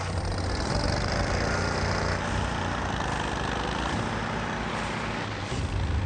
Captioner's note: engine runs; dramatic music